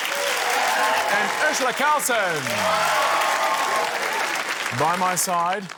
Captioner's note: cheering, applause